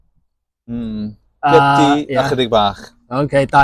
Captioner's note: in Cantonese